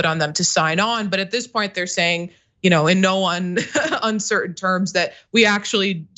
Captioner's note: laugh